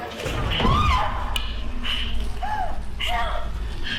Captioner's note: tense music; Johnny spits; Maggie screams